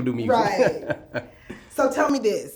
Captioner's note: laughs